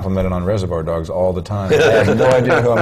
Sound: chuckle

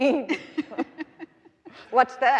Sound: both laughing

